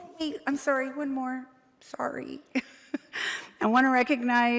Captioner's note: chuckles